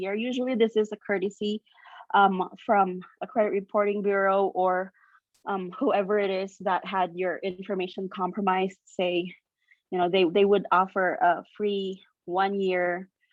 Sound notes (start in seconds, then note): none